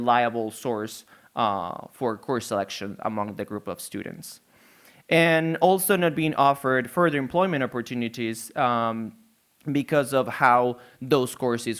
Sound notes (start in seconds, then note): none